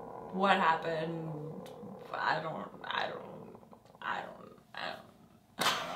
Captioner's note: man groaning